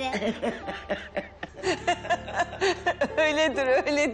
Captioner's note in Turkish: Gülüşmeler